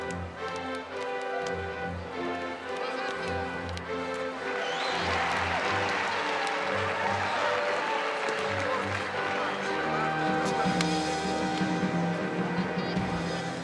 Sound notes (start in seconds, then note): 5.0 cheering and applause